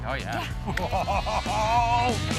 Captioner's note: cackling excitedly